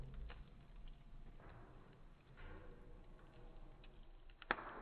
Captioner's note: fire crackling